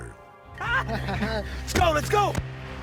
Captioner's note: laughing